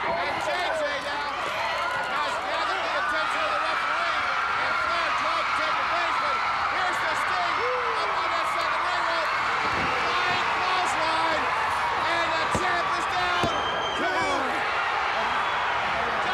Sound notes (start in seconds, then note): 9.6 wrestler thudding on ring; 13.4 countdown thudding